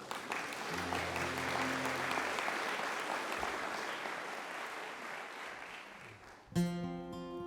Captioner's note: applause